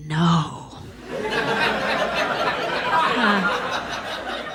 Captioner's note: audience laughs